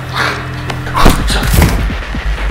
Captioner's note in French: Coup violent